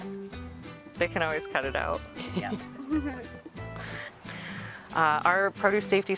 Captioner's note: laughs